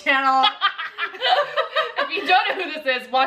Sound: laughing

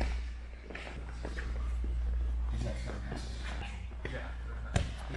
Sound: spectators chattering

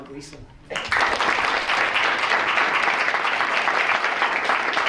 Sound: audience claps

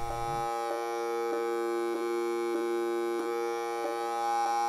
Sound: buzzing

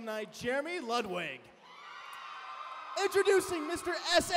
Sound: cheering

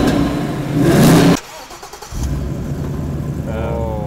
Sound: engine starts

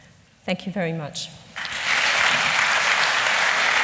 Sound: applause

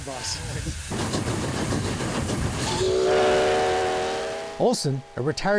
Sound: train whistle blowing

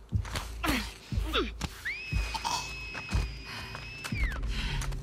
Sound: alert whistle!!!

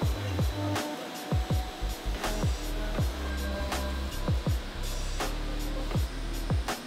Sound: lively music continues; machines whirring

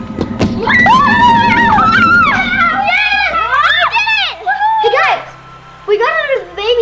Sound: kids cheering

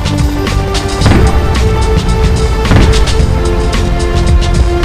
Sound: explosions followed by large avalanche

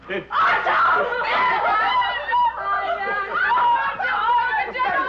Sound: all shouting

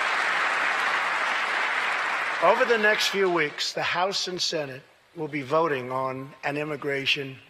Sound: applause

